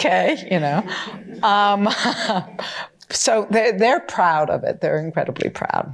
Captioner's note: laughs